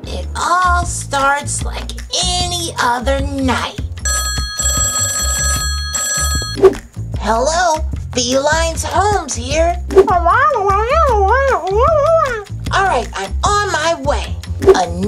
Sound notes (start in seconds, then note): 4.0 phone rings